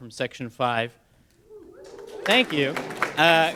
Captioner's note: a scattering of muted "woo hoo" cheers